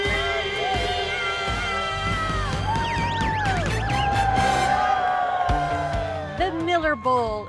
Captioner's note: cheers and applause